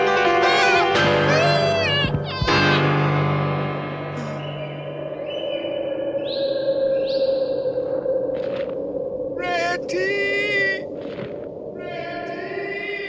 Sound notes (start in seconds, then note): 1.3 screams; 4.1 whistling continues; 11.7 ”Ratty!” echoes